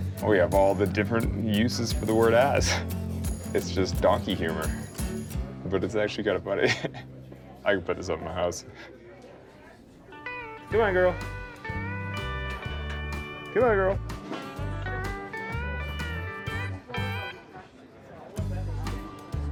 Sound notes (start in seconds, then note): 0.0 laid-back country music; 6.6 laughing; 10.1 gentle country music